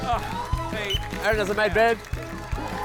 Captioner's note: blows whistle